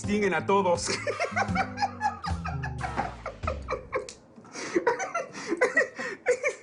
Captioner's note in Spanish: Ríe; Ríe